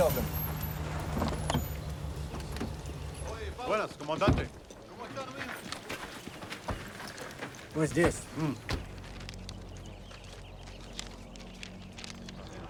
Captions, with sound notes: Keep your eyes open. (officer and soldier speaking Spanish)